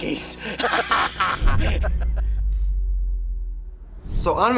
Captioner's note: group laughing